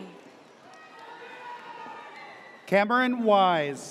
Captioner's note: audience cheers